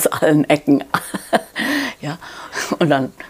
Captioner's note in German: Sie lacht